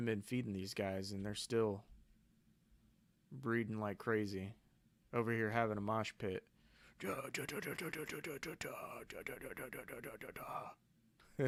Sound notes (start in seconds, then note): 7.0 humming